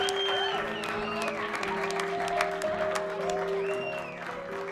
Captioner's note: crowd clapping